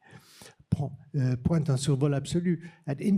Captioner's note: speaking french